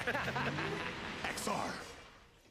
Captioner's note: both laugh